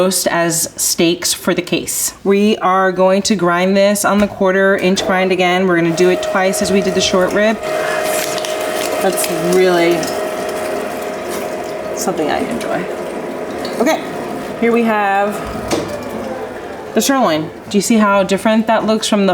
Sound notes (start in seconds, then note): 7.9 grinder humming